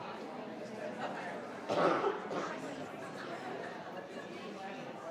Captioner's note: crowd talking continues